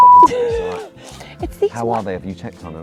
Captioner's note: laughs